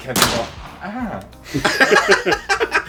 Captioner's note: gunshot